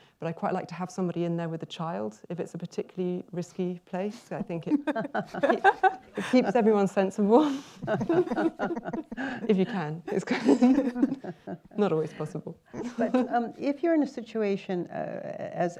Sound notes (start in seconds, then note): 4.2 laughter; 7.7 laughs